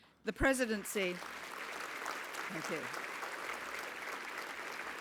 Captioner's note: applause